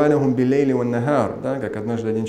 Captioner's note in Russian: Говорит на арабском